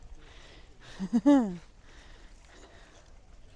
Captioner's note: laughs